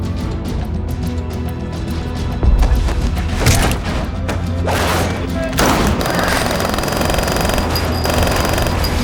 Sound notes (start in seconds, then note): 2.4 blows thudding; 5.5 guns firing